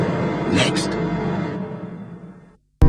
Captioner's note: creepy voice